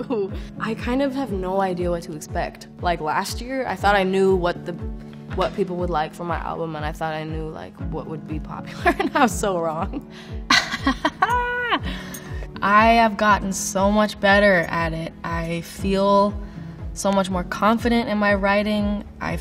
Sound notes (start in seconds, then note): 10.5 laughing